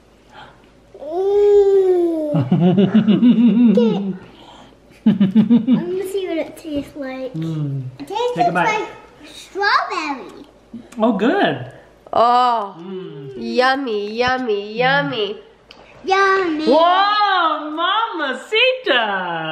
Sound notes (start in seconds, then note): 2.2 chuckling